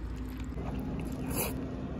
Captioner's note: slurping